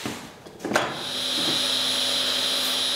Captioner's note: saw noise